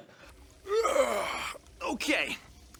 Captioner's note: yawn